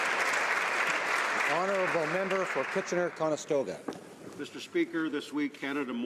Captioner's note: applause